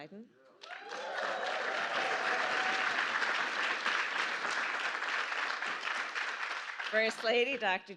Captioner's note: applause